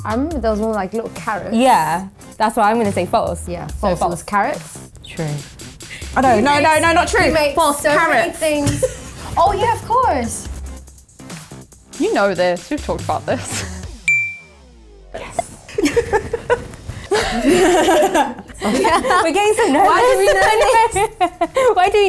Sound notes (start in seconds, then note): 15.2 laughing